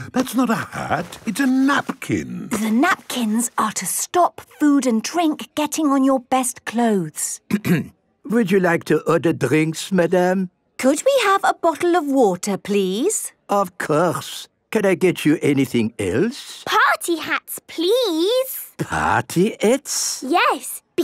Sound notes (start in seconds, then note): 7.5 clears throat